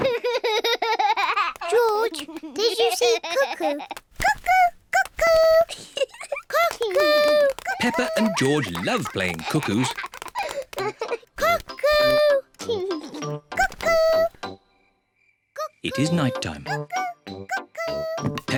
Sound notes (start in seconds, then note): 0.0 laughs; 6.1 giggles; 10.6 laughs